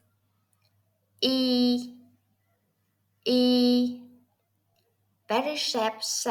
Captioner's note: Vietnamese